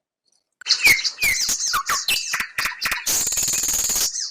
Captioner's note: birds chirping